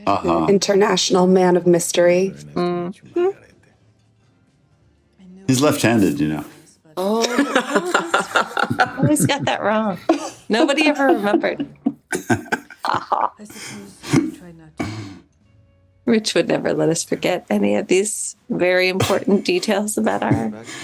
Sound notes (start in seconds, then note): 7.0 laughs